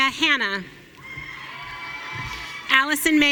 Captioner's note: audience cheering